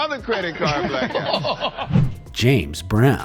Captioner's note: hosts laugh